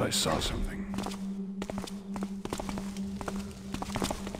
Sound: footsteps

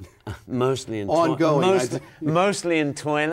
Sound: chuckles

